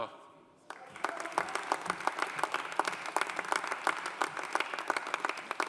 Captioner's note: audience applauding